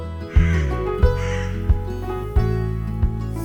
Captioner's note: crows cawing before dawn